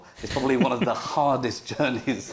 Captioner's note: panel chuckles